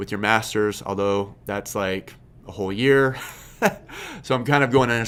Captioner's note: laughs